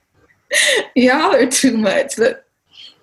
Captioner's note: chuckles